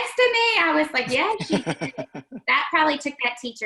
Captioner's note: laughing